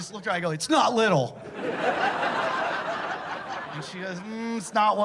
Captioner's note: laughter